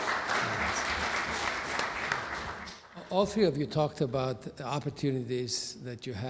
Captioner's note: clapping